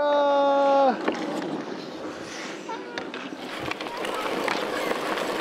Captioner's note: skates scraping